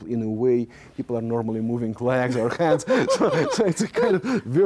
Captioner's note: both laughing